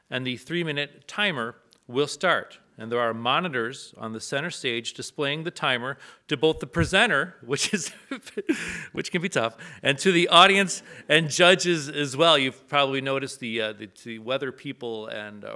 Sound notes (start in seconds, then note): 7.6 laughs; 9.1 audience laughs